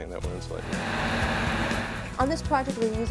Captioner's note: pressure hose blowing